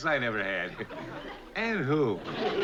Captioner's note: chuckles